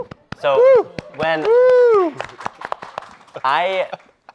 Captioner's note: audience and applauding